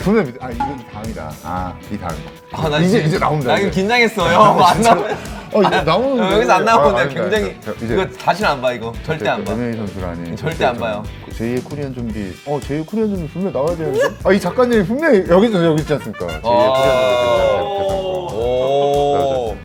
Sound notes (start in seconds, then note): 11.1 on the verge of crying